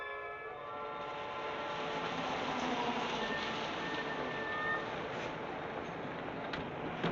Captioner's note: suspenseful music continues; vehicle droning